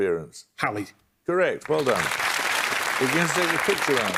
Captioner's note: applause